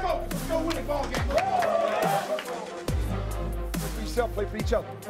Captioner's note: team cheers